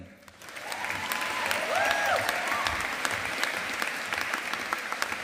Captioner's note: audience applauding